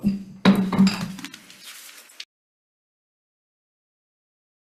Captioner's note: gavel pounds and clatters